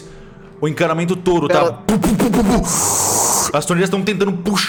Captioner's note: slurping